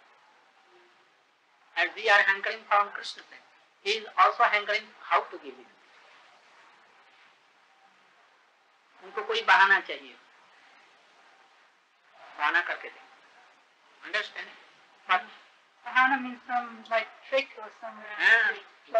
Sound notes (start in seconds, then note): 7.6 Hindi